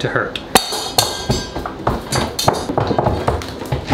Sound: metal clanging

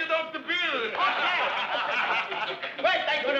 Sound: men laughing

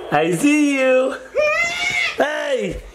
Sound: screams

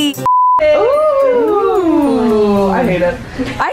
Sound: beep; all groaning

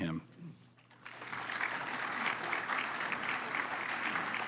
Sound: applause

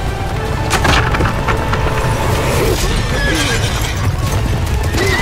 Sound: land splitting; horse neighing

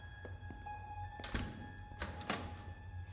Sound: door opens; door closes

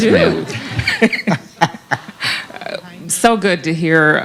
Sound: laughter

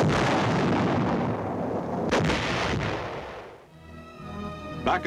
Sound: mortar fire booming

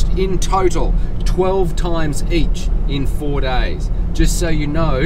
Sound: none

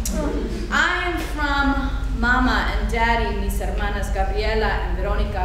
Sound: speaking foreign language

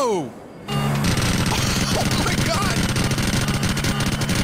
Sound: bullets firing; laughs

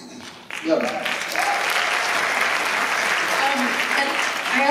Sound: applause

